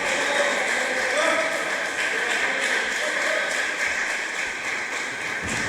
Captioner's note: applause